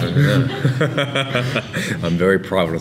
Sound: laughing

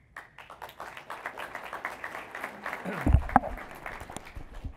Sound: applause

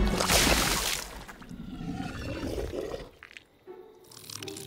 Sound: growl

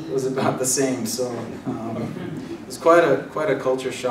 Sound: laugh

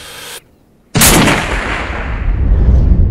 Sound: weapon Firing

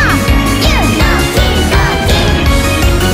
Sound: boom Boom!

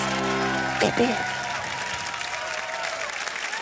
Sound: applause

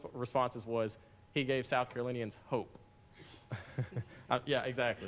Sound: laughs

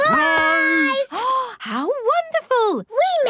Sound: gasps

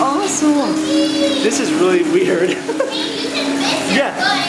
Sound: laughs

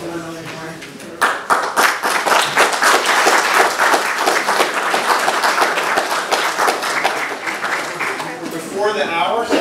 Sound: applause

